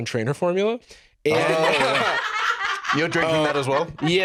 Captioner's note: laugh